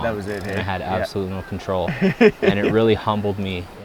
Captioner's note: softly chuckles